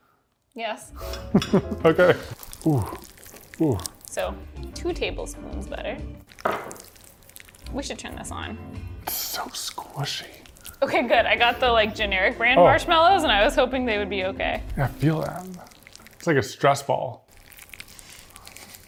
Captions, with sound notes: Yes. (laughs) Okay. So two tablespoons butter. We should turn this on. So squishy. Okay, good I got the like generic brand marshmallows and I was hoping they would be okay. Yeah feel that, its like a stress ball.